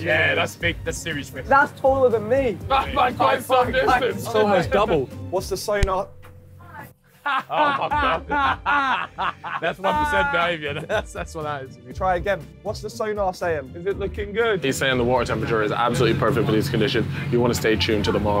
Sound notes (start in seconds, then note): 5.8 head thumps; 7.1 group laughing